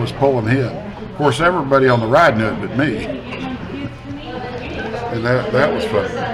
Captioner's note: laughs